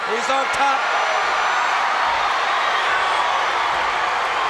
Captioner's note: crowd cheers